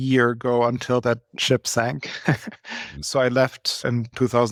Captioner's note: laughs